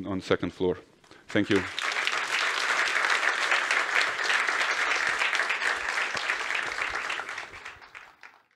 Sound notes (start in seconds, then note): 1.3 applause